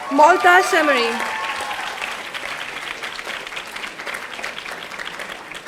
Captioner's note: audience applauding